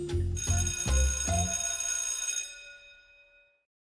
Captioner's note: bell ringing